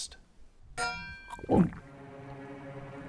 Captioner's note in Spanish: trago